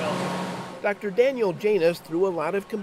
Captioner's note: voiceover